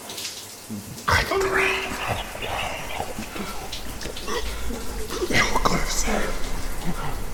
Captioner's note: choking